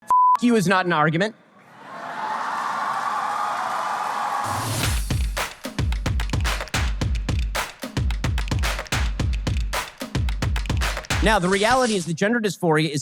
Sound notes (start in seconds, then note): 1.7 audience applause